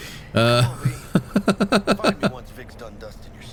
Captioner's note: laughs